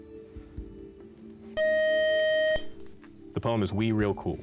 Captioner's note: time-out buzzer